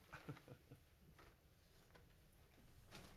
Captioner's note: chuckles